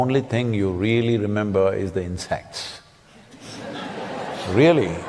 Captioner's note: laughter